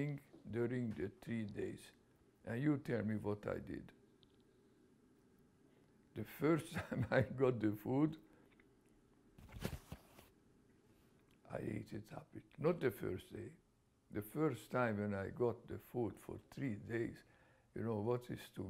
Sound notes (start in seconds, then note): 6.3 laughs; 9.3 pauses for 3 seconds